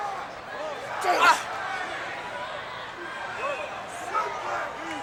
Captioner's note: Ric groaning